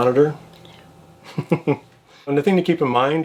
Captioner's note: laughs